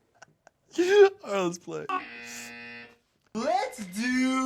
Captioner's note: buzzer buzzes